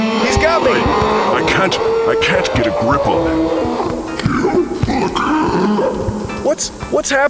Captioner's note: fizzling sound